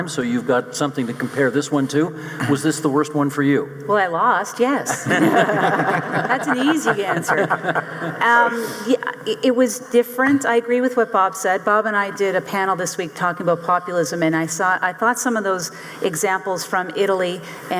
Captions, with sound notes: so you've got something to compare this one to. Was this the worst one for you? - Well, I lost, yes. (audience laughing) That's an easy answer. It was different. I agree with what Bob said. Bob and I did a panel this week talking about populism, and I thought some of those examples from Italy